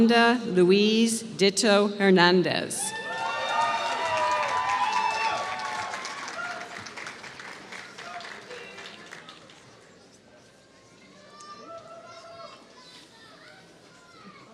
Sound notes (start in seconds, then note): 3.1 applause